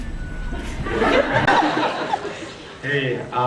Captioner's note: laughs